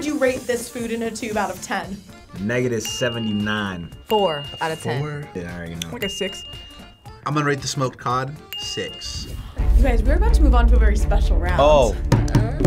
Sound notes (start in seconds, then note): 2.8 bell dinging